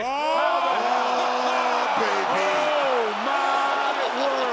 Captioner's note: audience cheering